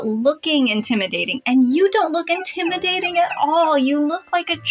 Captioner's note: whimpering